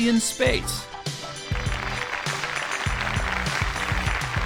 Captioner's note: crowd applauding